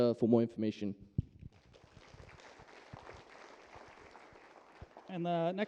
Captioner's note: applause